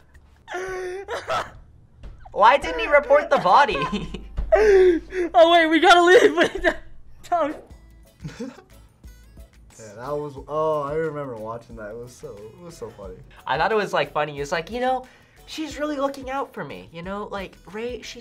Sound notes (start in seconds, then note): 0.4 laughs; 0.4 Sykkuno laughs; 8.2 chuckles